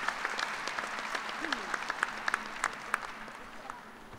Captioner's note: applause